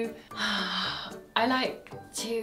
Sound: sighs

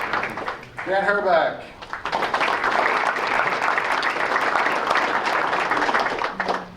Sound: applause

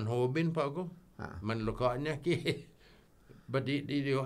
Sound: chuckles

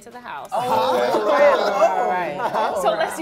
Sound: cast laughing

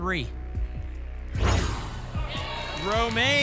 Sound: whoosh

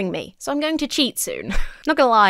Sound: chuckles

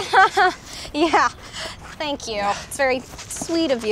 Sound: laughs

